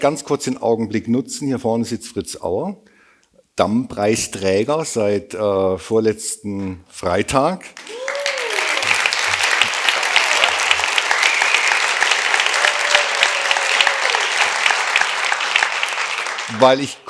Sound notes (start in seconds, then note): 9.2 applause